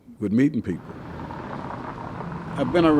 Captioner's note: car engines revving